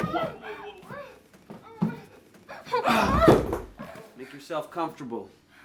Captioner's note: Michelle whimpering